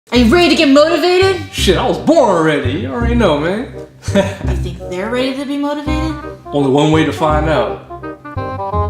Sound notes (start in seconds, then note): 4.1 laughter